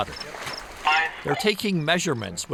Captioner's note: radio chatter